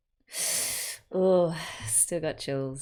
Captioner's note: sharp intake of breath